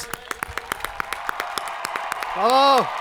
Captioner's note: hands clapping; people cheering